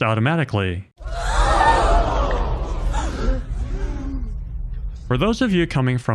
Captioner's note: crowd gasping sound effect